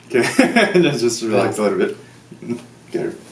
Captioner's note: doctor laughs